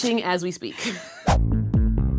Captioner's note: laughs; funky music